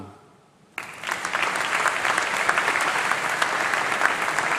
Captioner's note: applause